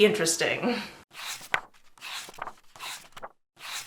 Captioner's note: pages turning